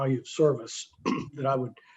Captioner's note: clears throat